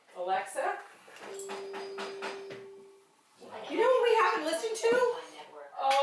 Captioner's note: the Alexa chimes